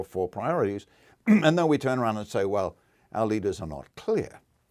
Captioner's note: cough